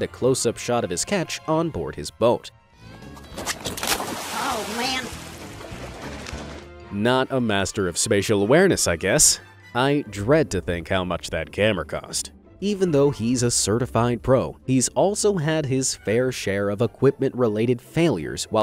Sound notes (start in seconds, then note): 3.3 splashing